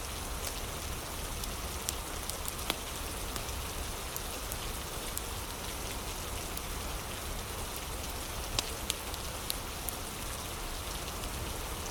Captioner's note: fire crackling